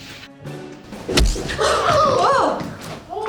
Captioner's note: pow